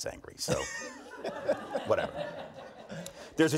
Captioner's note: audience laughs